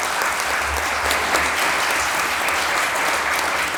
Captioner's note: applause